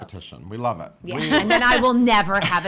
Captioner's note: laughing